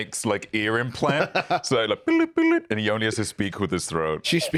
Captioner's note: beeps